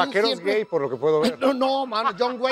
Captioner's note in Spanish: Ríe